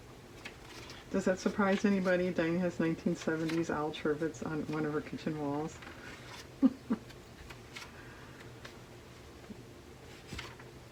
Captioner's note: laughs